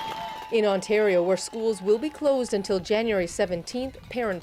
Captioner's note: applause